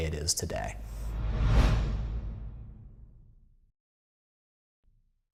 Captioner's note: air whooshing